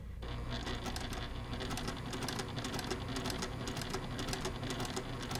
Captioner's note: sewing machine churning